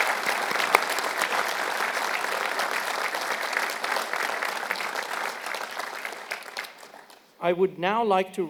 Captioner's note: applause